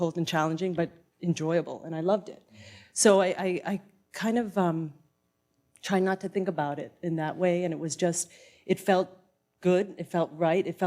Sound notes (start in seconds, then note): none